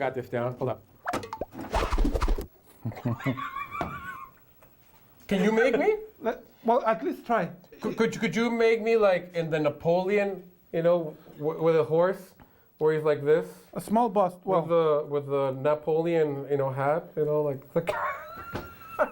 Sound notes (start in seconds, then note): 2.7 comedic sound effects; 4.4 laughing